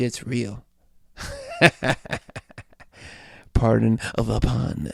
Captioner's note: laughs